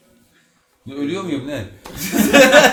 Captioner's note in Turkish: Kahkaha sesleri